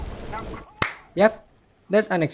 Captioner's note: clap